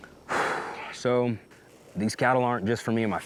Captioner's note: exhales